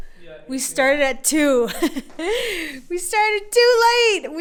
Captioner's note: chuckles